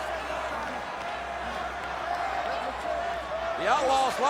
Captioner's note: crowd chattering